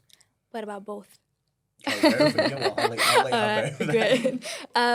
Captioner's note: laughter